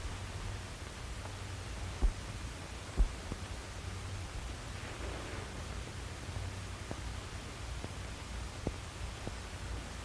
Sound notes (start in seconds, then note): none